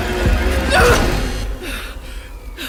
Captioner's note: yelps